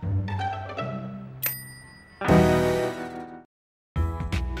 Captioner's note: bell dings